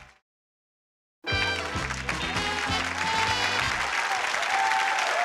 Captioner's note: upbeat music; applause